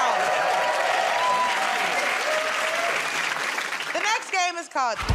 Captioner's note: cheers and applause